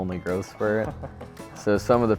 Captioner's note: laughs